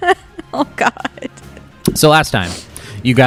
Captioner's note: laughing